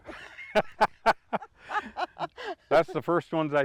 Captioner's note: laughing